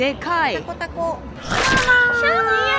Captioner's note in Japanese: 叫び声